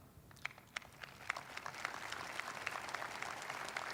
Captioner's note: audience applauding